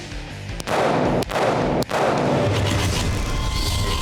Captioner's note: gun firing; intense music